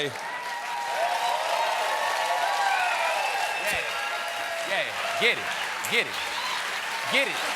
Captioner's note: cheers and applause